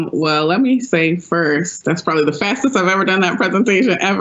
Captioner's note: laughs